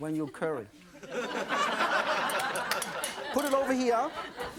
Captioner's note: audience laughing